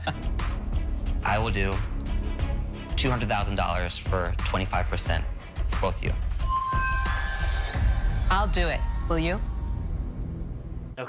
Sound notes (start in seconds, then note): 6.3 dramatic screeching